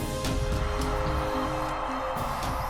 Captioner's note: hissing and Biting Neck